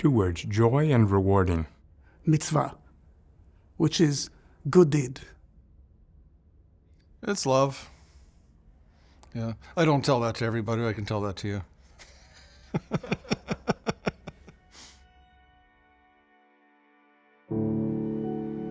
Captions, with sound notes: - Two words, joy and rewarding - Mitzvah, which is good deed. - It's love. I don't tell that to everybody, but I can tell that to you. (laughs)